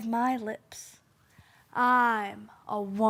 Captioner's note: soft breathing